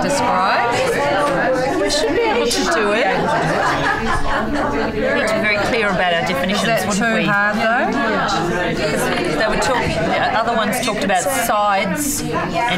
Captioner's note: audience chatter